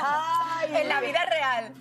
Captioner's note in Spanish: risas